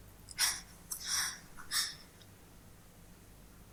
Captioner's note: sobbing